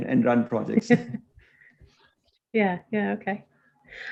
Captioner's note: chuckles